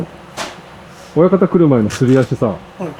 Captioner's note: sliding feet